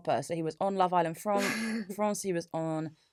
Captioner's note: laughs